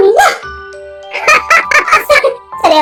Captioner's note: laughs